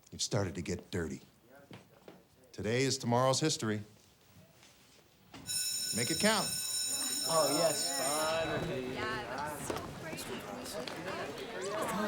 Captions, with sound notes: You've started to get dirty. Today is tomorrow's history. (bell rings) Make it count. (students chattering)